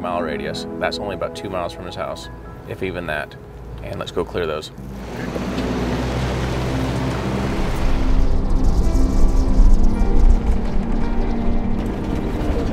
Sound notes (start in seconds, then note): 4.8 vehicle engine roaring; 10.2 soft music